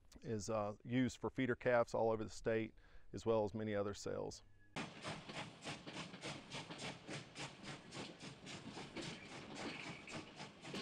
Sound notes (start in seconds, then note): 4.8 engine chugging